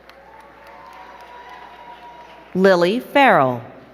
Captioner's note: crowd cheering and clapping